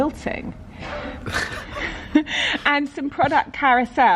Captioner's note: laughing